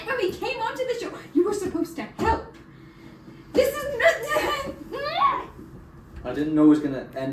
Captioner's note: more exasperated noises